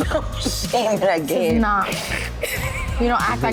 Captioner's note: woman giggling